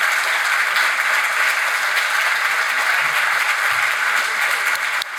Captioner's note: audience applauds